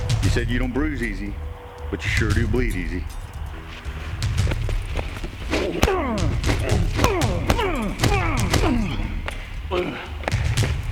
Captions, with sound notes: You said you don't bruise easy, but you sure do bleed easy. (Jason groaning)